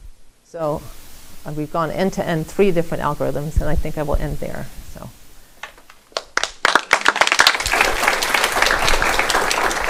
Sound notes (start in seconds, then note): 6.1 applause